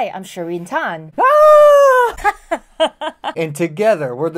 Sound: laughter

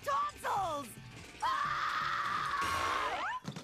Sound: screaming

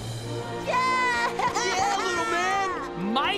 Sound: cheering

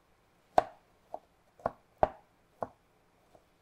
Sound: knife tapping

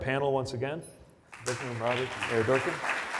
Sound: audience applauds

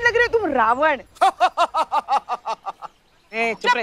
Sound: laughing hysterically

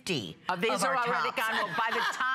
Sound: laughter

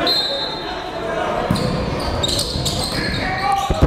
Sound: whistle blows

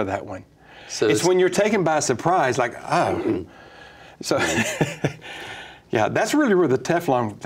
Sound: laughs

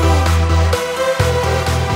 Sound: applause

